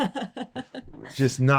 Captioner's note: laughs